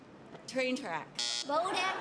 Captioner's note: buzzer